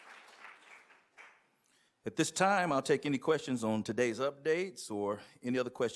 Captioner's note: cheers and applause